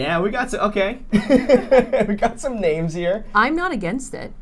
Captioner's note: laughs